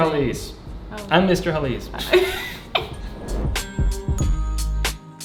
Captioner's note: laughing; mellow music